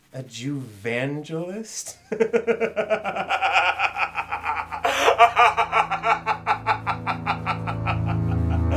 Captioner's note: Asher chuckles until the machine beeps and cuts him off